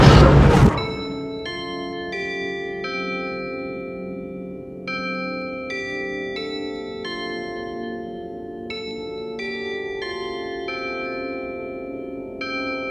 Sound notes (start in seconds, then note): 0.0 dramatic music builds; 0.8 Big Ben doorbell chimes